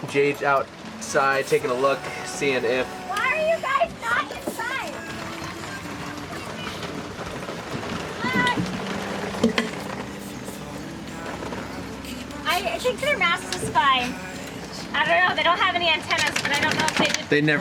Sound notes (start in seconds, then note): 5.6 boaters voices drowned out by heavy rainfall